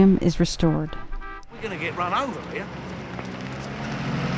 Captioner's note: horn Honking